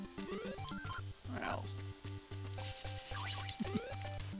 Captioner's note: laughs